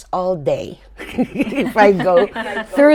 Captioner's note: laughter